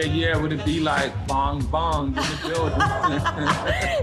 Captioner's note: both laugh